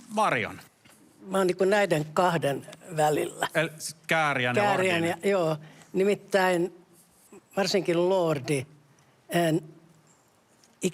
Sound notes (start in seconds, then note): none